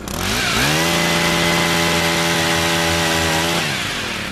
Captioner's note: saw buzzing